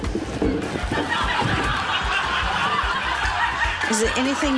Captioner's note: laughter